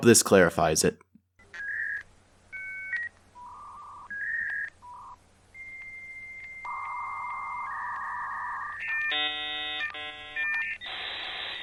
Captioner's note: dial up tone